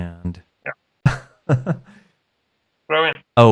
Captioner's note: laughs